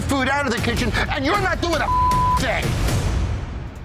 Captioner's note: beep; tense music